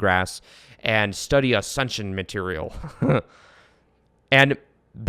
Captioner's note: chuckles